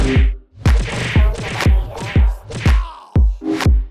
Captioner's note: punches slamming; rhythmic keyboard music